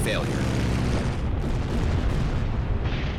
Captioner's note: engine roaring; cannon fire